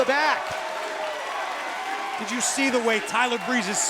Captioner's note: crowd cheering